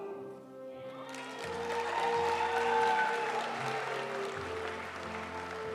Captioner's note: audience cheering and applauding; graduation music